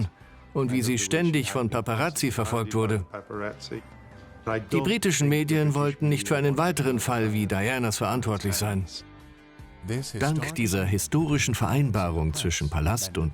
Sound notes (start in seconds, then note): 9.2 voiceover